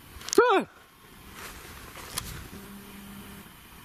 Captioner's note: yelling